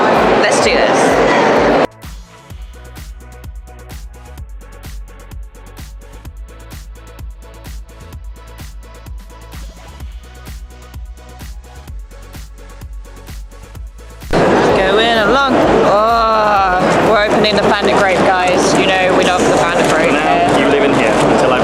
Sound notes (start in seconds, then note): 2.0 crowd noise; 14.1 singing